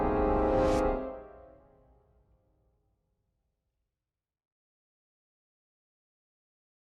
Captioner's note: music fades; air whooshing